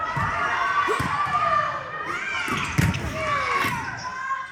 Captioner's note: cheering; grunt